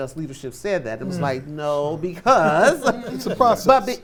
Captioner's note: chuckles